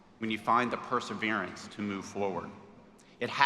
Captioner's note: none